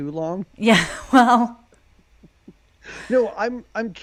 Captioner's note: chuckles